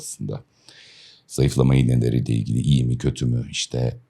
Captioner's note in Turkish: homurdanır